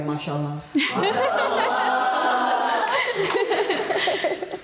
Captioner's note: members chuckling